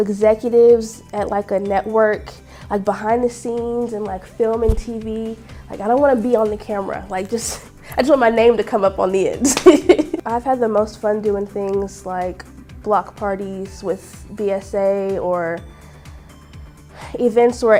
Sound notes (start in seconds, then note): 9.5 laughs